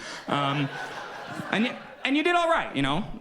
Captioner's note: audience laughs